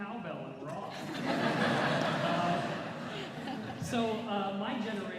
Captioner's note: laughter